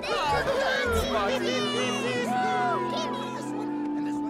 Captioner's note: crowd cheering